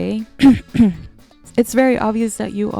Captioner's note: clears throat